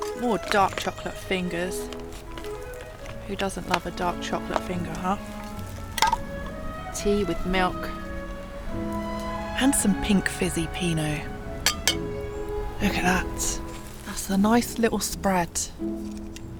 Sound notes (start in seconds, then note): 11.6 clink clink!